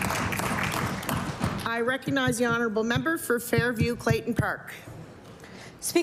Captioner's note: applause